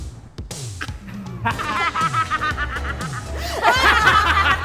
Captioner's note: excited laughter